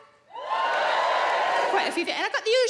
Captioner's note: audience cheering